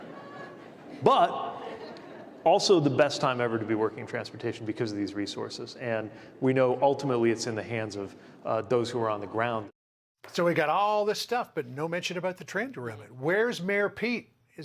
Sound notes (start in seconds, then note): 4.4 laughter